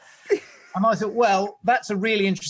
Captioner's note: laughs